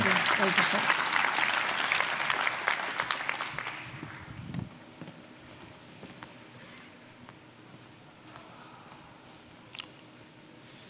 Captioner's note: applause